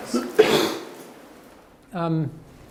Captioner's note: coughs